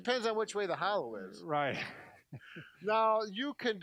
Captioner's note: laughs